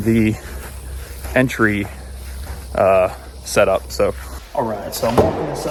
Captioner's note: footsteps thumping